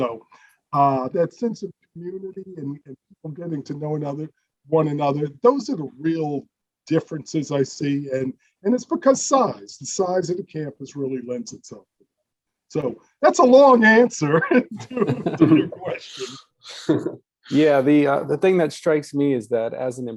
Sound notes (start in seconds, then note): 13.7 chuckles; 16.7 all laugh